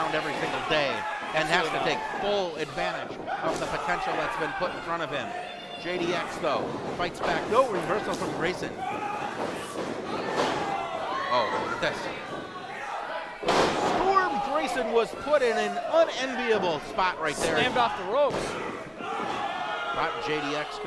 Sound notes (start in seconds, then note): 13.4 thud; 18.4 cheering